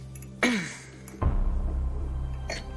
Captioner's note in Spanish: Diana carraspea